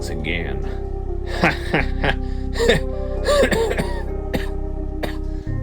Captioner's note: laughs; coughs